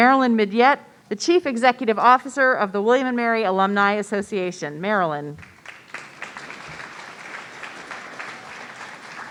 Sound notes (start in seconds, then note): 5.4 audience applauding